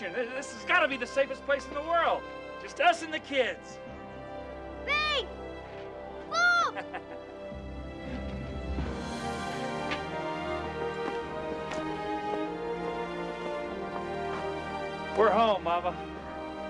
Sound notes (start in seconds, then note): 6.5 laughing